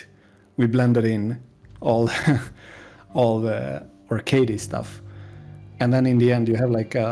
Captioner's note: laughs